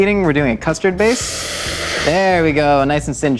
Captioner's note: pan searing